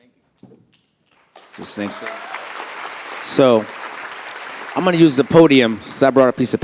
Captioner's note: applause